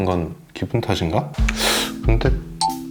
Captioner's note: sigh